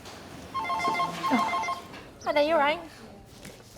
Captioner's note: birds chirping; phone ringing